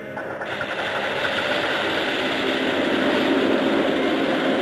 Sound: capsule whirring

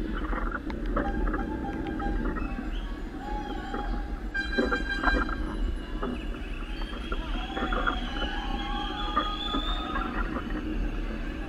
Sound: shouts and calls of cyclists

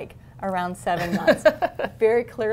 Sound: laughter

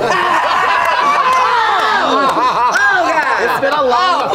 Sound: all shouting and laughing

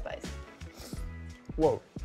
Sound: slurping

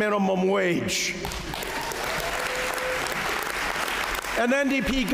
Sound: applause

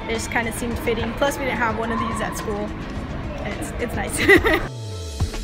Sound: laughs

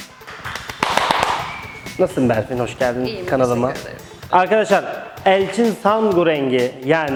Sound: applauses

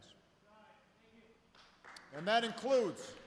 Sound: applause

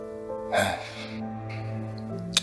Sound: Bryan sighs

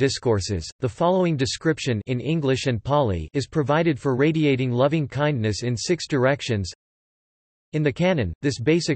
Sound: in English and Pāli

